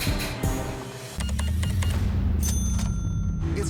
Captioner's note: cash register beeps, dings